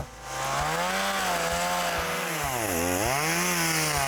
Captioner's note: motor revs and purrs